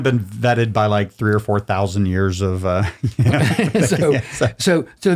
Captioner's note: laughs loudly